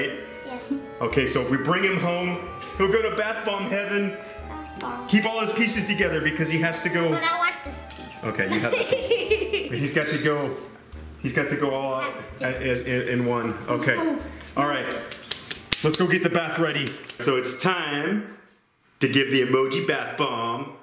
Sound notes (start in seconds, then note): 8.4 laughs